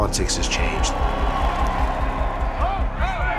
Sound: crowding cheering

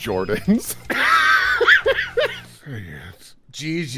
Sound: laughter

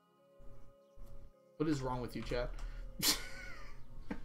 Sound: laughs

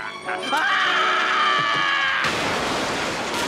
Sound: screaming

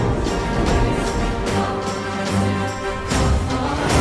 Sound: storm rumbling

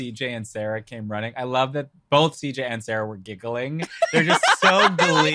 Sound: laughs

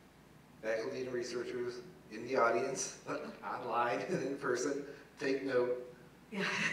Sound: laugh

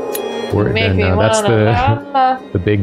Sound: laugh

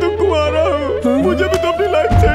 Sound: tire Screeching

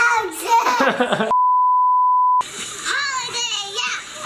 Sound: beep

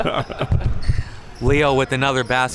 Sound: laughing

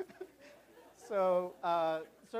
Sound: laughter

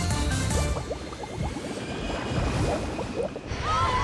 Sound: passengers cheering

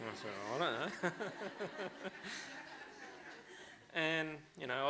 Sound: laughter

